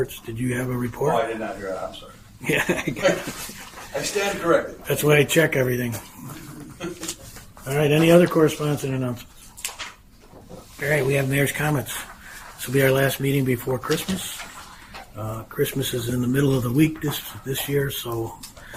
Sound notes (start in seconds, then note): 2.4 chuckles